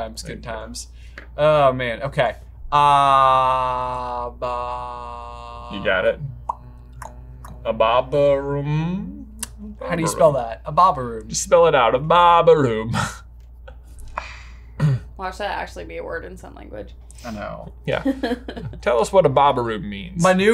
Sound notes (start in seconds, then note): 6.4 makes pop sound, a couple clicking sounds; 18.0 chuckles